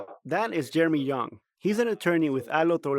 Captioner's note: voice-over